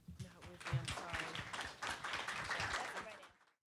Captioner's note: applause